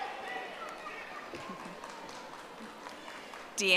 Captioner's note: audience applauding